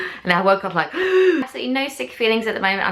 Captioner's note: loud gasp